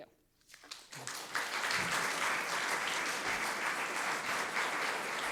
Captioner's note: audience clapping